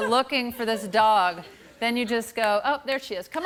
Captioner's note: laughter